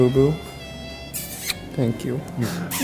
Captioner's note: puckering kiss sound